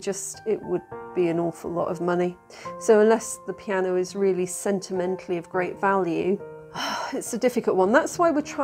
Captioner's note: sigh